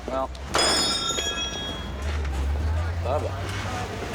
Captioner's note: tool clanging